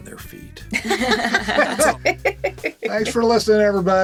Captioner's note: all laughing